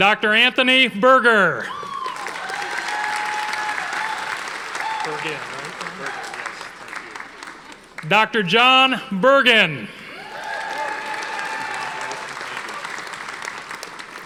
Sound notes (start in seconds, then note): 1.7 audience applauding; 10.1 audience applauding